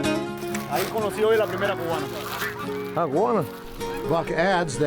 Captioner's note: man speaking foreign language